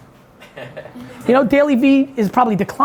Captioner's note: audience chuckling